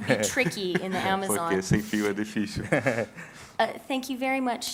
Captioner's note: speaking in portuguese